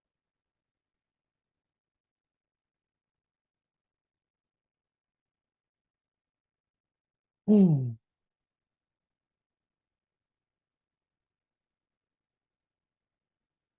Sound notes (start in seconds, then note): 7.4 sighs